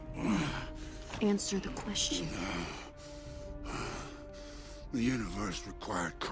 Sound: groaning

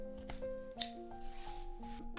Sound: snip

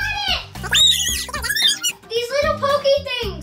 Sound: squealing

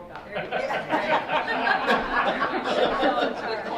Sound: laughing

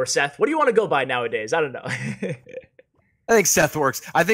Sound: laughs

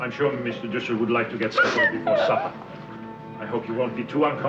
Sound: Anne crying

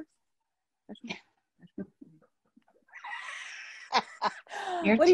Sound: laughter

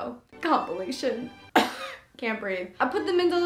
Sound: coughs

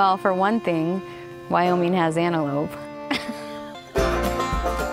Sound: laughs

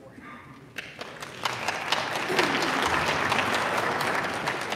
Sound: audience applauding

